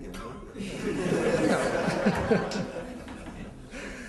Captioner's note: laughter